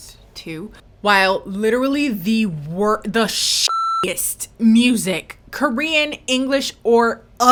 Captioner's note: beep